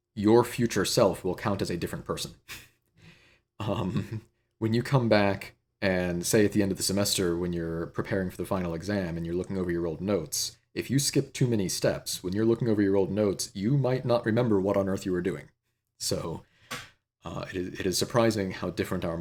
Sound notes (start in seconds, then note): 3.6 laughter